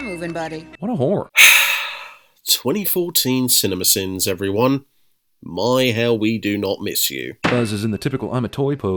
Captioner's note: sigh